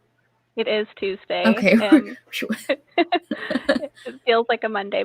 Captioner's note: chuckles